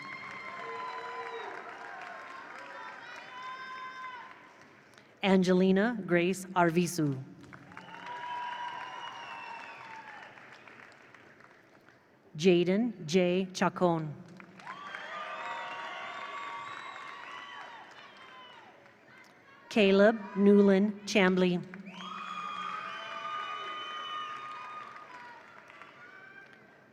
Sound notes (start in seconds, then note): 0.0 attendees cheer; 0.0 attendees applaud; 7.4 attendees applaud; 7.5 attendees cheer; 14.3 attendees applaud; 14.4 attendees cheer; 21.6 attendees cheer; 21.7 attendees applaud